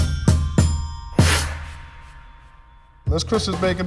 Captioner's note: graphic chiming; video whooshing